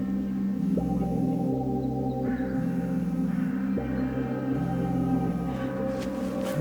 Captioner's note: cellphone vibrating